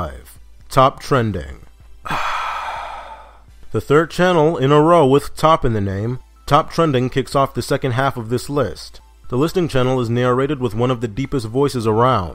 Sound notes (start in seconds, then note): 2.0 sigh